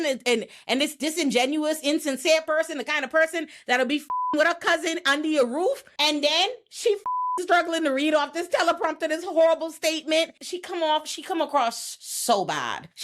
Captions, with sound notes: and this disingenuous, insincere person, the kind of person that'll be (beep) with her cousin under your roof, and then she (beep) is struggling to read off this teleprompter, this horrible statement. She come off, she come across so bad.